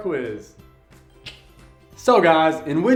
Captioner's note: tongue clicks